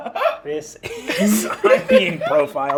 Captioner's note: laughing